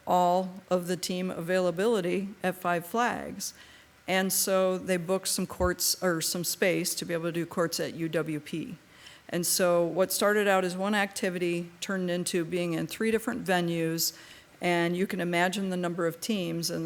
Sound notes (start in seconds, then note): none